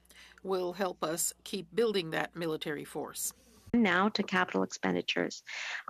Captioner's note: speaking French